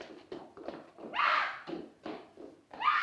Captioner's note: screams